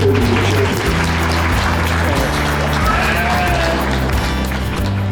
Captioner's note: audience applause